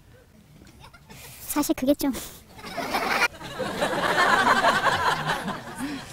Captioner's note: audience Laughter